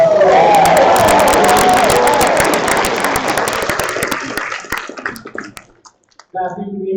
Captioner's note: applause